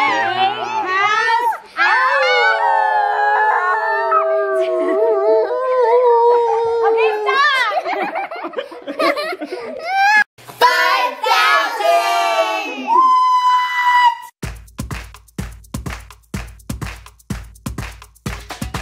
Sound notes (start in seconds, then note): 8.4 laughs; 14.4 energetic percussion music